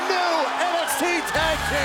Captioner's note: crowd cheering